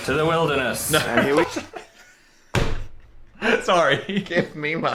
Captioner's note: laughs